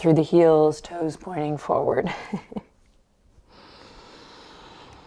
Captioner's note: chuckles